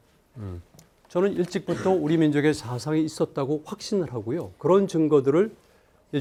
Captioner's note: speaking in Korean